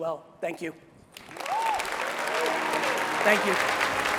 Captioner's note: crowds cheering